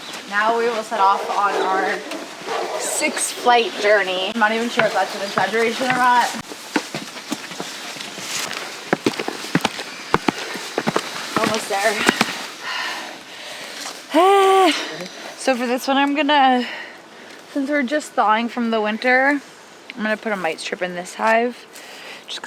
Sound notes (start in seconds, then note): 8.8 breathing loudly